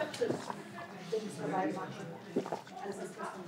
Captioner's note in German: Leises Stimmengewirr